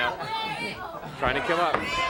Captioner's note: crowd chatter